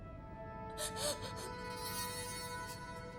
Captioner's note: Mayday sobbing